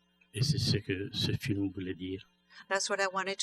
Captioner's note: speaking french